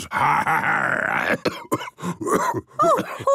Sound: growls; cough

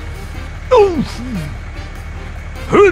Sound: sounds constipated

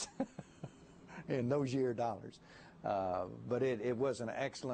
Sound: laughter

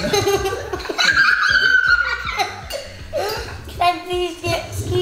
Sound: laughing

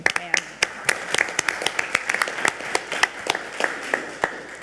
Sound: audience clapping

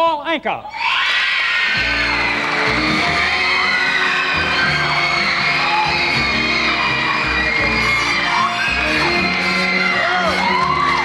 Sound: audience screams

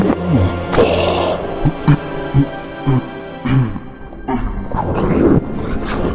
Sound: bin hand cries out; margore roars again; bin hand gasps for breath then exhales

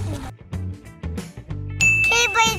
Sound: bell rings

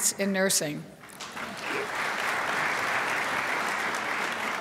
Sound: crowd applauds

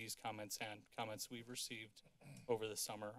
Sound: clears throat

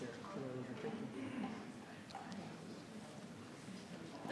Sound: people chattering

